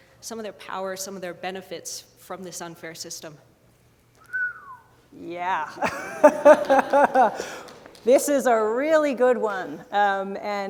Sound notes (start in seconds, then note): 4.2 whistles; 5.7 laughter